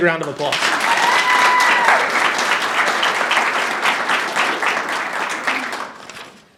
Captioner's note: audience applauding and cheering